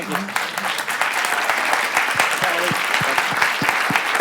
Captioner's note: applause